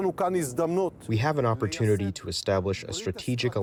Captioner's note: through translator